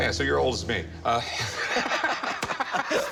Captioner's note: laugh